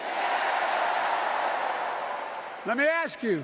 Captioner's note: cheering